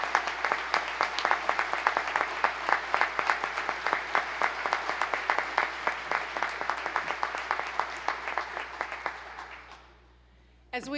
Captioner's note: applause